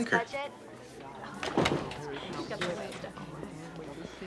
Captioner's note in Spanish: estudiantes murmurando